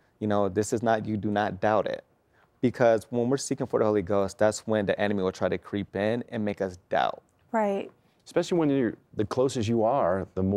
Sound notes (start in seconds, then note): none